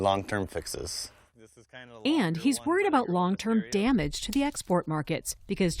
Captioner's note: voice-over